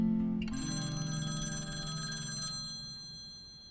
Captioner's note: phone rings